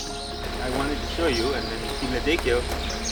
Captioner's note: speaking Nepalese